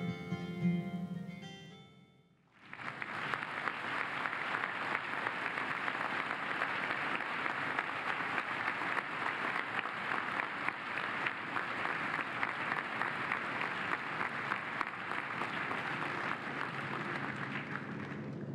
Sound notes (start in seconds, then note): 6.3 applause